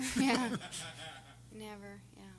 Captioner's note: everyone laughing